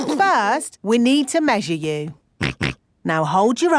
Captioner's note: snorts